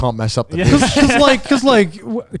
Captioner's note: laughs